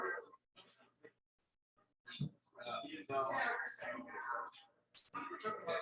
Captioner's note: people chattering indistinctly